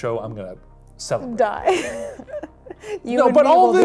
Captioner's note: laughs